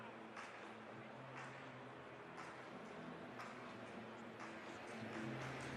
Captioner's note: rhythmic applause